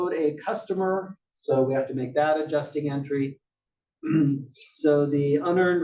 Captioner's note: cough